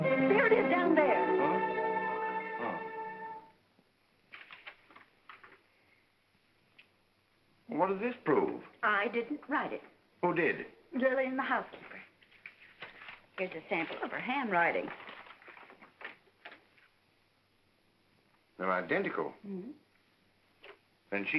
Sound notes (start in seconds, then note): 0.0 dramatic music; 4.2 paper rustles